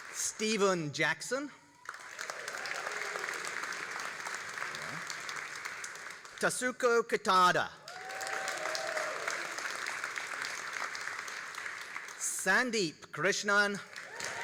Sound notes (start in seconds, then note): 1.7 all applauding; 7.8 all applauding and cheering